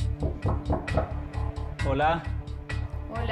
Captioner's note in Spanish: Sonido al tocar